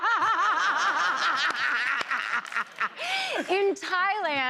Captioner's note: laughter and applause; laughing